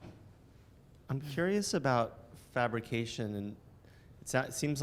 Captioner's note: voiceover